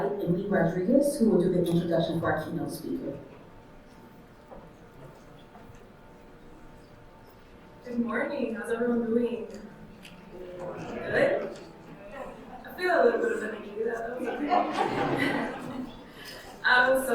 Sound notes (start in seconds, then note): 10.5 audience chattering; 14.0 audience laughing